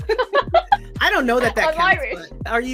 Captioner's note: laughs